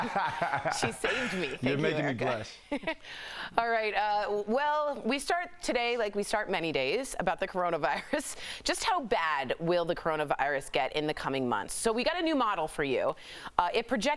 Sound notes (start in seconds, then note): 2.6 laughter